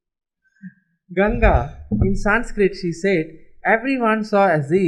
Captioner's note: in Sanskrit